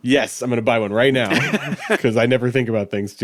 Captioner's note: laughing